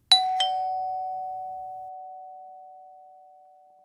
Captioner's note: ding dong